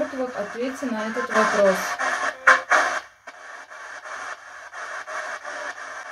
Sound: female spirit voice answer

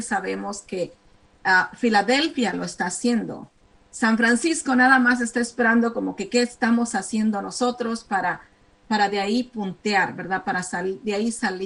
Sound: speaking spanish

